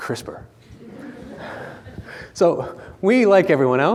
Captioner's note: audience laughing